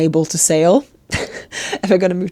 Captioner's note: speaker laughs